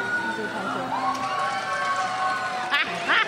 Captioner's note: crowd cheers; woman laughs